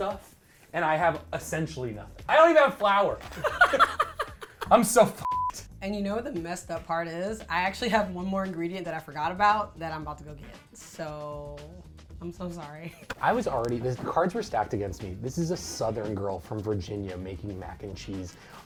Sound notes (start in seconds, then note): 3.2 both laugh; 5.2 beep